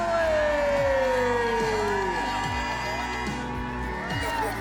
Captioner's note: crowd cheering